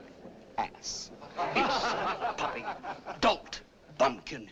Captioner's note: people laugh